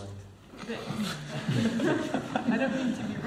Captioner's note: laughter